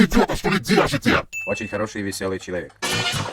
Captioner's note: voiceover